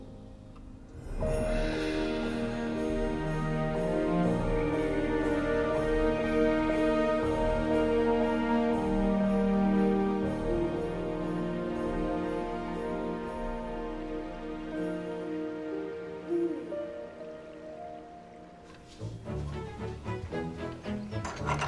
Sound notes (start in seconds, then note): 1.2 bells jingling; 1.2 light music; 19.1 upbeat music; 20.2 door rattling